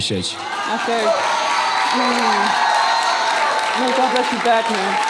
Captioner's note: audience cheering and clapping; audience cheering drowns out speaker